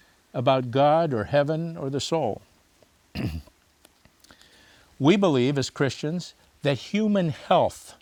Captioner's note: clears throat